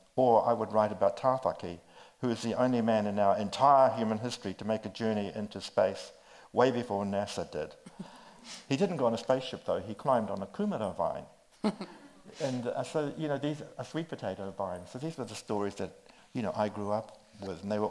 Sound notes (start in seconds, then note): 11.6 chuckles